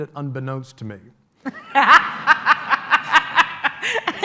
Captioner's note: laughter